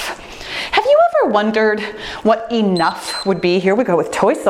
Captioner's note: timer beeps